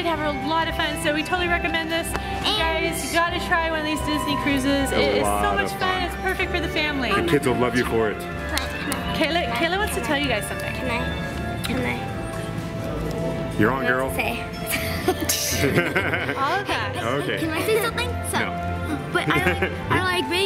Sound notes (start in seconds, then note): 14.7 laughing